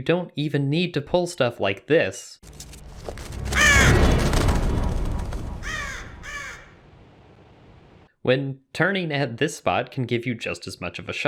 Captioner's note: raven noises